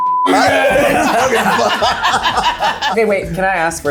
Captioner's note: people laughing